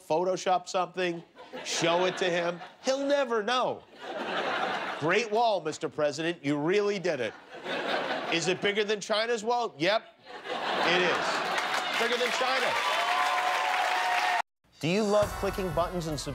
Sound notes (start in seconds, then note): 3.9 laughter